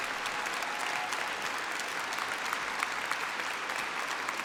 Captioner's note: applause